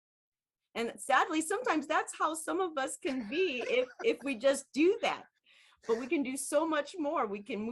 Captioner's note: laughs